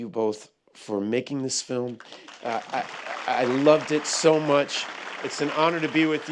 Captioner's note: applause